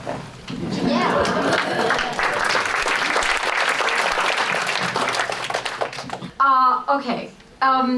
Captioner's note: applause